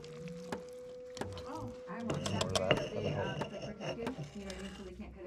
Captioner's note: more audience background chatter